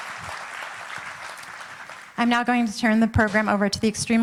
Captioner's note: applauding